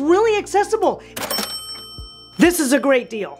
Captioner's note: bells chiming